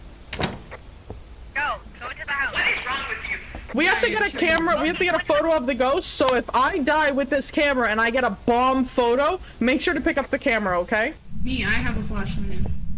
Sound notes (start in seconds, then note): 1.7 over Radio; 10.2 over Radio